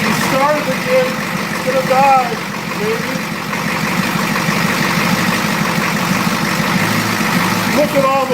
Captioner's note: engine starts and idles erratically; engine idling erratically